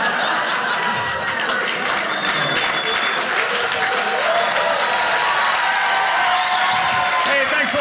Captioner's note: audience laughing; audience cheering